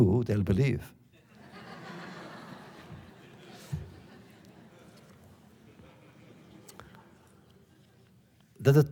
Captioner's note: laughter